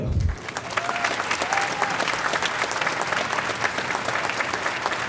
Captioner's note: audience applauding